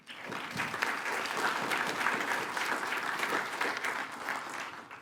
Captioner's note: attendees applaud